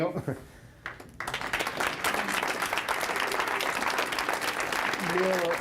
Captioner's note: applause